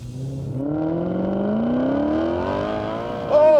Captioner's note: engine revs loudly